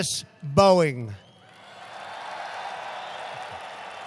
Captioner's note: applause